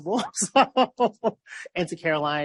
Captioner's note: laughs